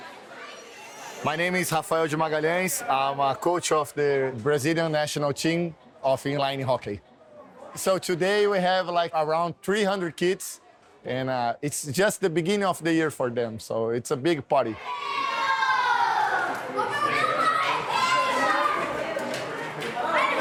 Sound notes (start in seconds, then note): 14.7 chatter; 14.7 cheering